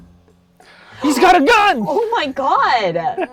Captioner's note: gasps